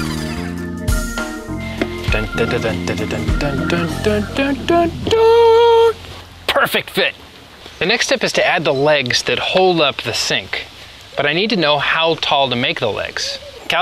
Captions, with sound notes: (imitating a trumpet fanfare) Perfect fit! The next step is to add the legs that hold up the sink, but I need to know how tall to make the legs.